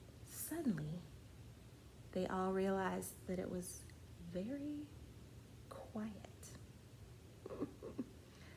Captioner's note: laughs